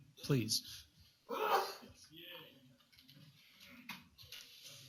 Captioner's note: sneezes